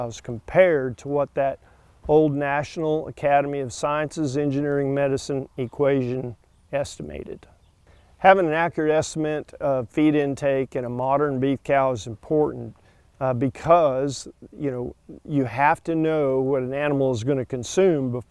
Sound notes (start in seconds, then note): 7.4 birds chirping